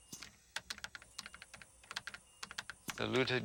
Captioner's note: keys clicking